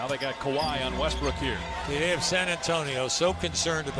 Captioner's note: applause